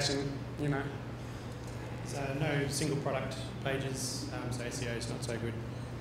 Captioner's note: none